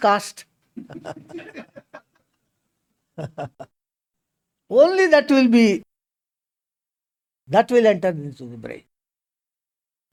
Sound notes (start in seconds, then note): 0.8 laughs